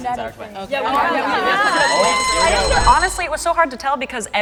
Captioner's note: crowd speaks; bell rings